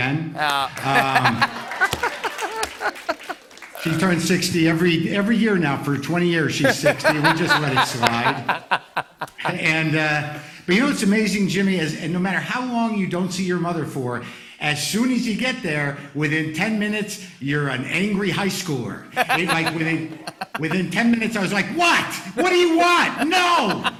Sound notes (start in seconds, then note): 0.7 laughter; 9.3 laughter; 19.1 laughter; 23.8 laughter